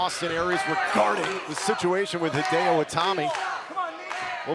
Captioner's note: crowd chatter